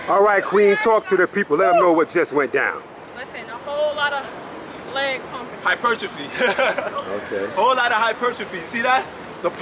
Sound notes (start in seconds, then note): 6.3 laughing